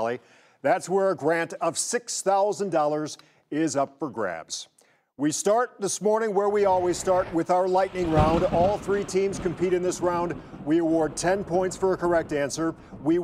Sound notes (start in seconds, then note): 8.4 thunder cracks